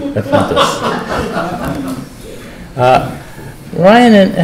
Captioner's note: laughter